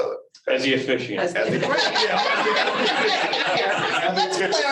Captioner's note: all laughing